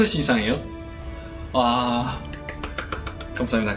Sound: clap, clap, clap

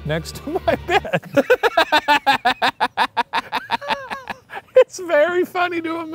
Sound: laughing

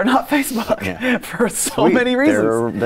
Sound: laughs

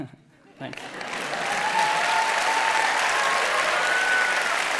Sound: applause

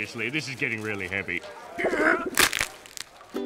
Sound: grunting

